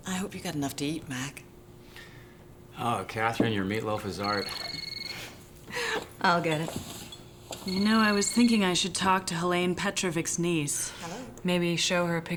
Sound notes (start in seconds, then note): 3.9 phone ringing